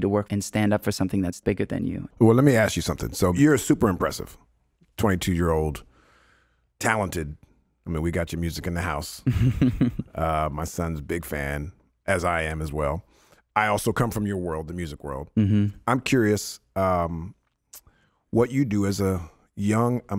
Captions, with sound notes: to work and stand up for something that's bigger than you. - Well, let me ask you something. So you're a super impressive, 22 year old talented, I mean, we got your music in the house. (laughing) My son's big fan as I am as well. I also come from your world, the music world. I'm curious what you do as a young,